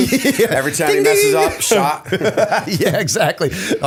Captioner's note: laughter